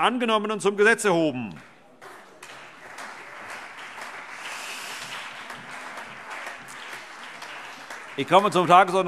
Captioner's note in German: Beifall CDU und BÜNDNIS 90/DIE GRÜNEN